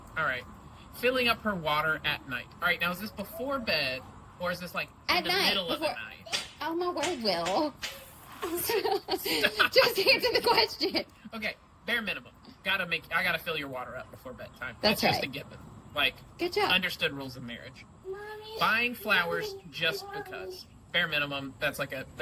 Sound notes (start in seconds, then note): 8.4 laughs; 19.3 laughs